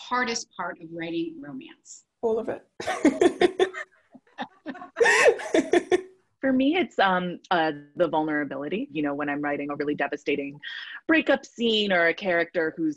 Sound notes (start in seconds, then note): 4.4 all laughing